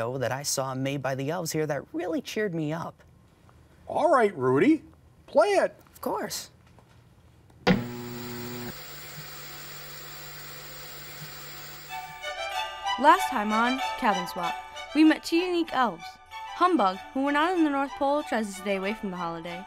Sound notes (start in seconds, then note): 11.2 static crackles